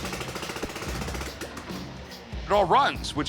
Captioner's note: engine revs; engine sputters